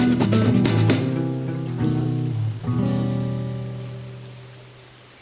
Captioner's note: rainfall